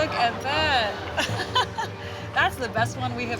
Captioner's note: chuckling